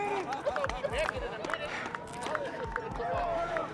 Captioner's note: team claps; team laughs